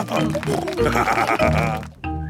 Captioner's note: snorting